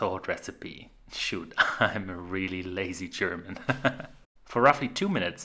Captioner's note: laughing